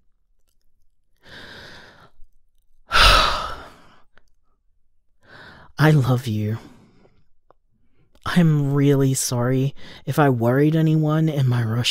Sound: sigh

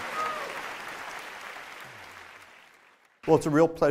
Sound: applause

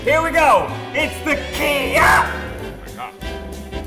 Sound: screams

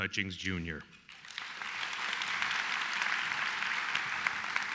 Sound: applause

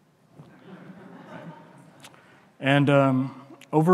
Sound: audience chuckling

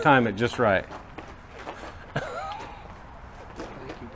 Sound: laughs

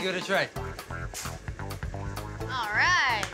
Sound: shoveling

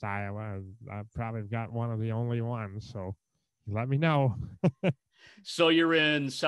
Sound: laughter

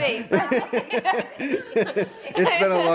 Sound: laughing

